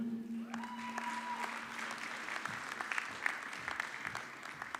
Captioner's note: audience clapping